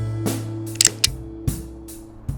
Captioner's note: click-click